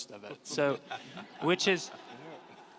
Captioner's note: audience laughs